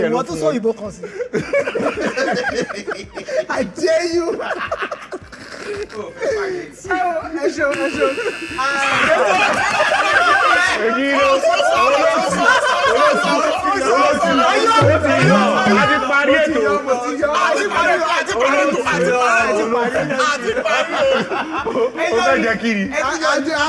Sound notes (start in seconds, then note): 4.7 everyone laughs; 7.6 buzzer pressed